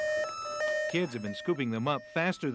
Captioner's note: beeping